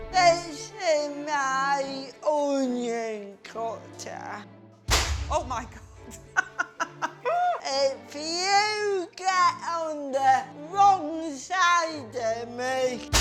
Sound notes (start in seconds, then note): 4.9 thwack; 5.8 laughs